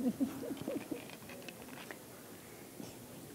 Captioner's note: chuckle